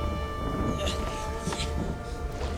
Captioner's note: grunting